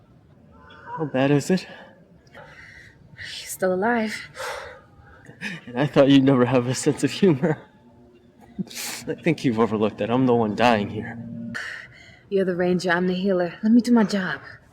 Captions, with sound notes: - How bad is it? - You're still alive. - And I never thought you'd never have a sense of humor. (laughs) I think you've overlooked that I'm the one dying here. - You're the ranger, I'm the healer. Let me do my job.